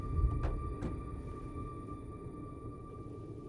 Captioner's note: car door closes